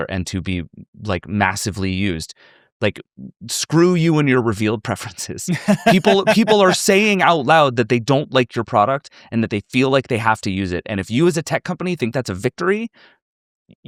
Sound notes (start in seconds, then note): 5.4 laughs